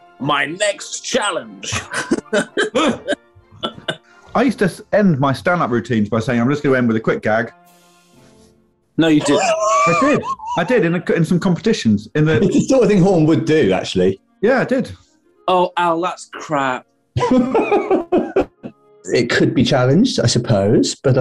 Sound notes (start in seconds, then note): 1.6 laughter; 9.1 sniggering; 17.2 laughing